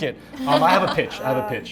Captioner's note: members laugh